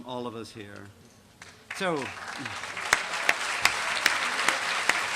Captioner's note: applause